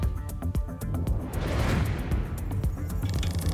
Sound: thump; whoosh; clicks

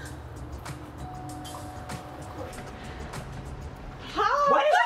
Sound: door bell ringing

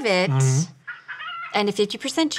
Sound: rubber chickens squeaks

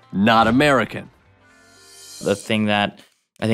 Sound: whooshing

